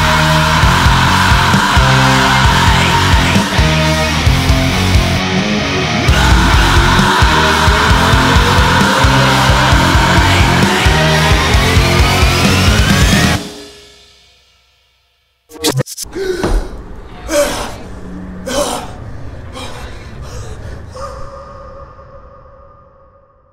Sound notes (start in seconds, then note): 15.5 screen static warbles; 16.3 man exhales and breathes